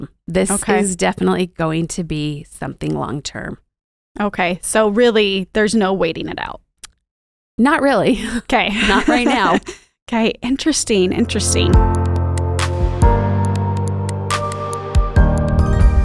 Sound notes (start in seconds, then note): 8.7 giggles; 10.8 upbeat music